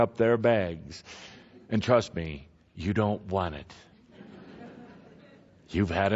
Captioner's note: laughter